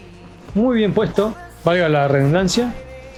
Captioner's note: in spanish